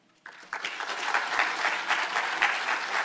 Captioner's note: audience clapping